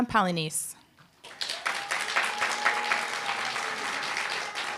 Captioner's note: applause, cheer